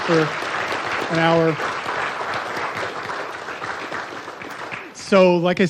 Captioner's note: audience applauding